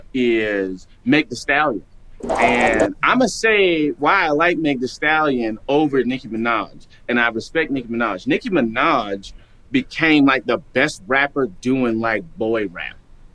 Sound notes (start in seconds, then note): none